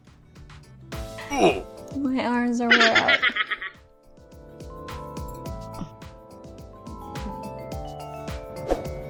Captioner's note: chuckles